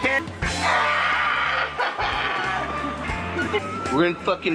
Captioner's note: shout laugh